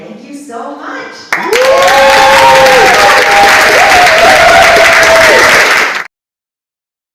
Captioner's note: audience Applauds